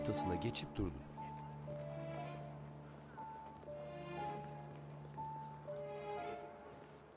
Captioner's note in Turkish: Ayak sesleri